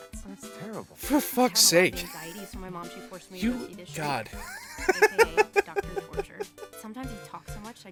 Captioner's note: wheeze